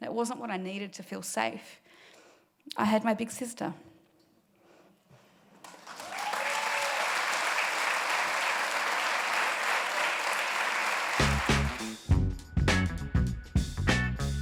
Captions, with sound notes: That wasn't what I needed to feel safe. I had my big sister. (audience applauding) (upbeat music)